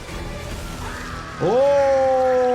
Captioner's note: suspenseful music plays; reptile screams